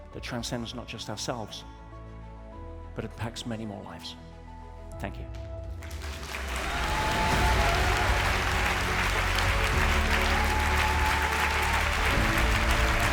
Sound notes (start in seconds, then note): 5.8 audience applauds; 6.2 uplifting music